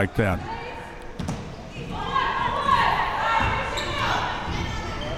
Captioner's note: spectators shouting